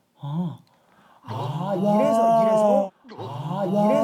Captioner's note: gasp